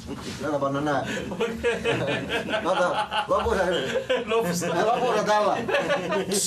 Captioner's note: laughter